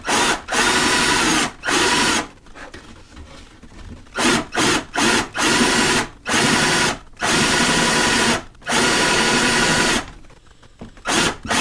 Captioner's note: drilling